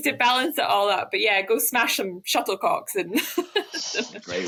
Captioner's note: laughs